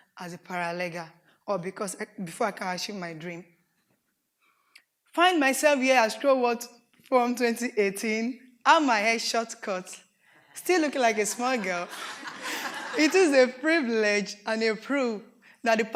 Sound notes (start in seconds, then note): 11.2 audience laughs